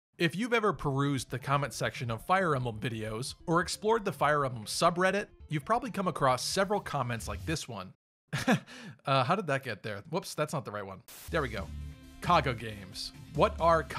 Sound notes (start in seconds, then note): 8.3 awkward laugh